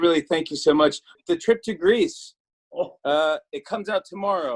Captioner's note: laughs